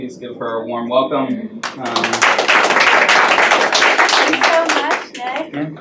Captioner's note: applause